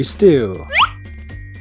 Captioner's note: slidewhistle